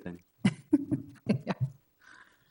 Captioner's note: laughing